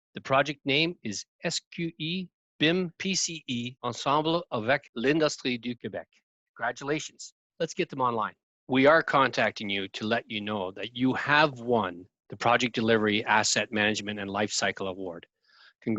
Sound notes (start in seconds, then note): 3.9 speaking in foreign language